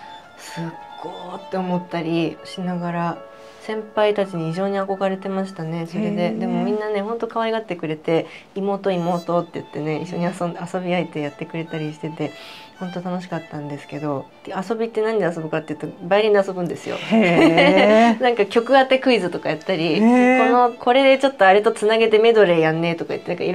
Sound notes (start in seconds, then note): 16.9 laughs